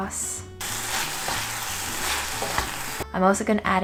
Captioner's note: oil sizzling